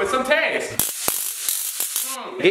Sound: zaps repeatedly

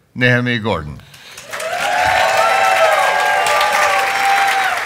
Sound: audience cheering

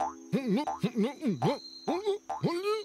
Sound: muffled grunting

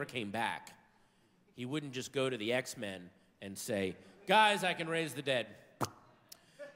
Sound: smacks lips

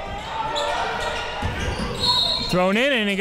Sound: crowd cheering

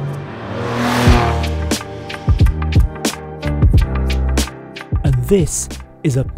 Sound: engine roars; upbeat music

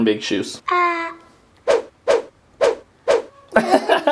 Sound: air whooshing; laughs

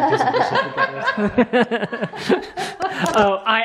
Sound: laughing

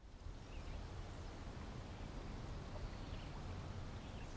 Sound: river flowing

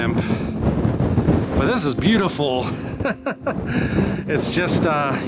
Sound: laughter

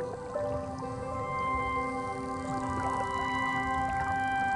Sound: clicks

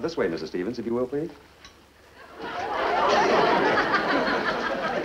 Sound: audience laughs

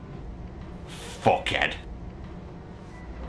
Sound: in mean voice

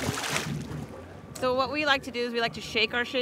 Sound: fish splashing

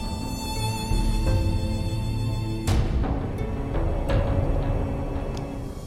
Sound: none

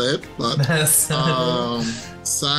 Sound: laughs

